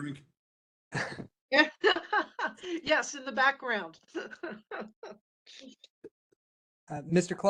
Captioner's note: laugh